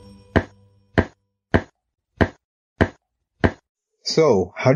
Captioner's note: pitter patter of feet